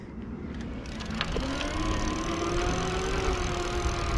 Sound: bike motor whirring

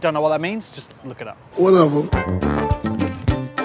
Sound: deep Male voice; indian music

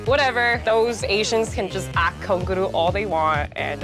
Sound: korean

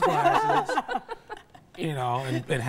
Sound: laughing

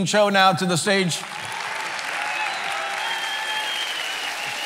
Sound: cheering

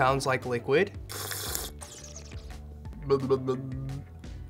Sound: slurps

